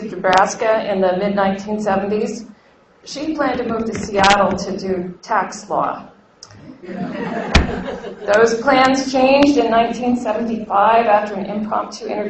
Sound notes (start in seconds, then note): 6.8 laughter